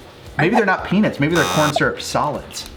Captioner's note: buzzer